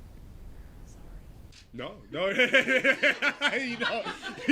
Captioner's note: laughing